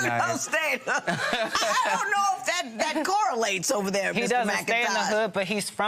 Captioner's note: laughs